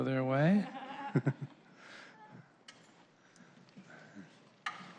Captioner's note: laughter